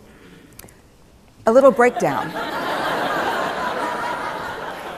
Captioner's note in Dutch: Gelach